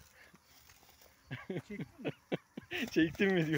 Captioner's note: laughs